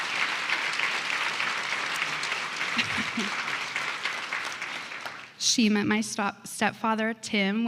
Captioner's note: applause